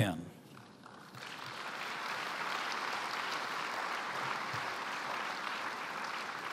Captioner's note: applause